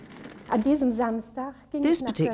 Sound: speaks in foreign language

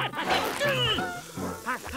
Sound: grunting; grumbling

